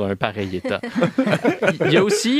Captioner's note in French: rires